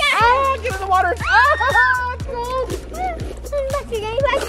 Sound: shouting

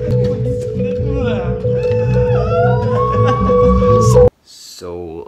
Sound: laughs in music; drummer whimpers; confused screaming

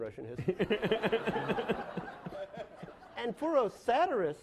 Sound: laughing

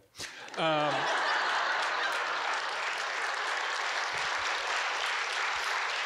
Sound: audience giggling and clapping

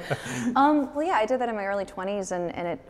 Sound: both laughing

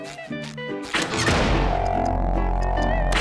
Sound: humming

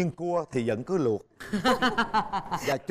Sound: laughing

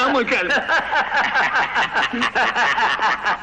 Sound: laughter

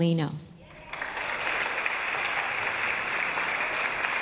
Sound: audience applause

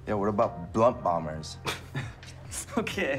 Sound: laughing

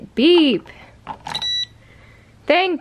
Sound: cheerful beep

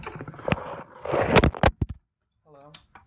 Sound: laptop drop

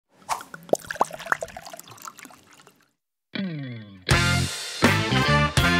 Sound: wine decanting into another vessel; bluesy music

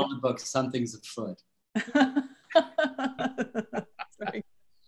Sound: laughter

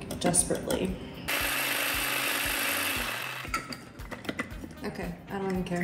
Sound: food processor buzzing

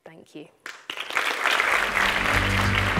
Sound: audience applauding; melodious instrumental music

